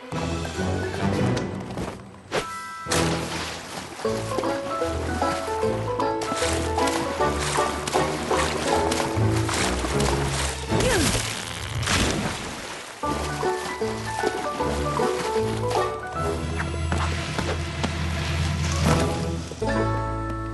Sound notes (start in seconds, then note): 2.9 splash; 4.0 old time piano; 11.1 crash; 14.8 old time piano